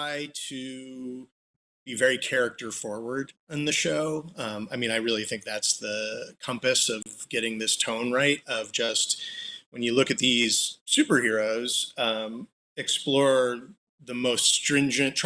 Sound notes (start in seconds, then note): none